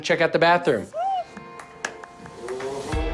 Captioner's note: squeals